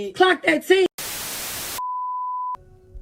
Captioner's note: static